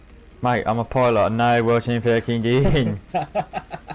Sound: mockingly

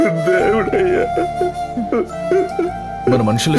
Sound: crying

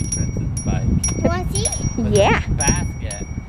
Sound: bell rings

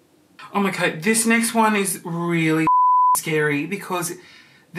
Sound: beep

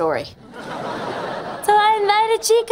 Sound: laughing

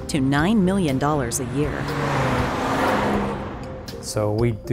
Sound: vehicles passing

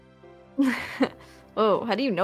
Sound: laughs

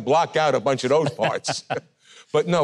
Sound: interviewer chuckling

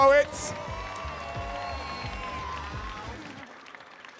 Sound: audience cheering

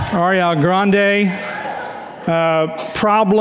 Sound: audience laughs and woos

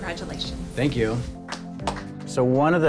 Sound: clapping

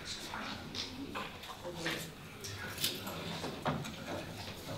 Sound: people chattering

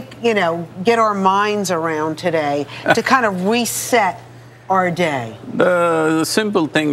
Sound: Sadhguru Laughs

